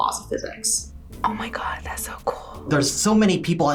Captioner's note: whispers